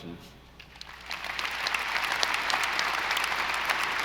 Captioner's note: audience applauding